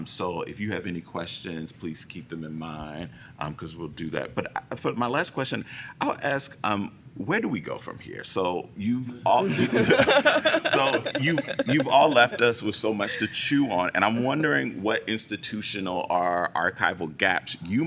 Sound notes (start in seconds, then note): 9.4 laughter